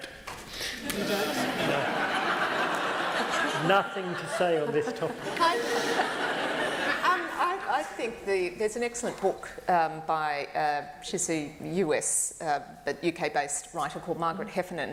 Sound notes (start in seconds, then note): 0.8 laughter